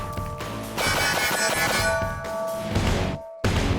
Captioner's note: gun fires